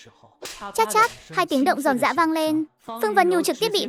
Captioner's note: slap, slap